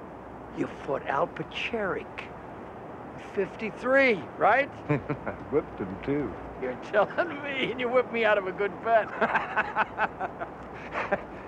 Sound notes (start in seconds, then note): 4.8 chuckles; 9.1 Archie laughs